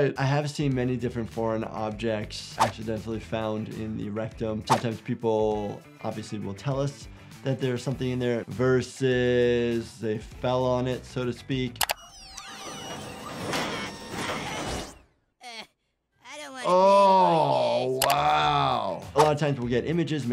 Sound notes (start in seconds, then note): 12.0 satellite whirring; 13.8 Cartman shouting; 16.2 Cartman groans